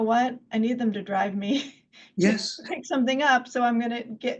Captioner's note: laughs